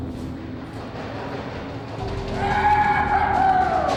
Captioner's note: pounding and yelling